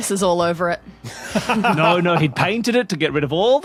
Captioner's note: laughs